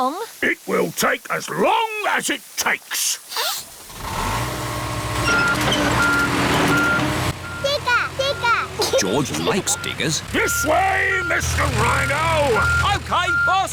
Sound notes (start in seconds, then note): 3.3 sniffs; 3.9 engine roars